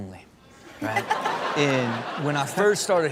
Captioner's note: Chanel and audience laugh